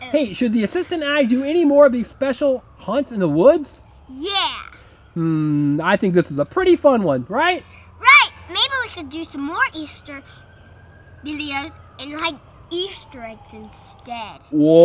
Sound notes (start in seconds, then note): 6.0 voiceover; 14.7 voiceover